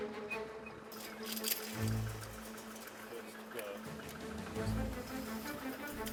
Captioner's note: speaking foreign language; chains clink; dramatic music